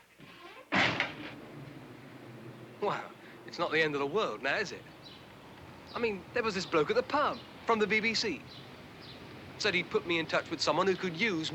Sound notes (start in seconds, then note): 0.7 door slams